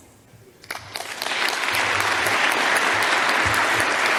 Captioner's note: audience applause